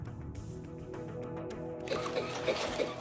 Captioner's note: coughing